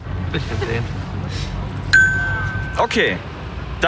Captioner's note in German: Glockenton